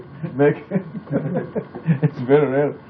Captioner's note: laughter